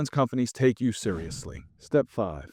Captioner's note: screen whooshing